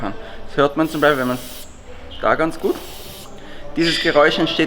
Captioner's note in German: Schabe faucht